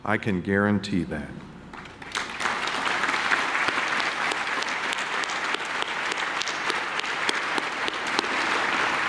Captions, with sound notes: I can guarantee that. (audience clapping)